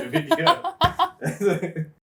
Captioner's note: laughing